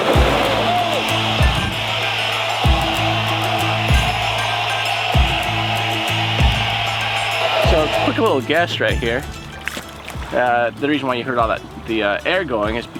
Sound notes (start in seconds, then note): 0.1 water splashing; 2.0 air escaping